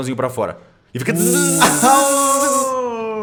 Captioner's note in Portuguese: Tzzzz